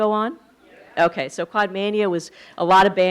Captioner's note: audience affirming